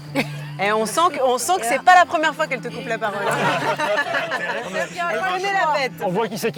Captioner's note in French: rires